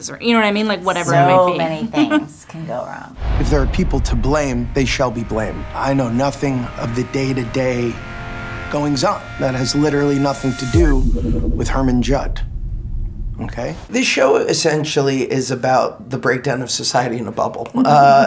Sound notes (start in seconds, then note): 9.2 beeps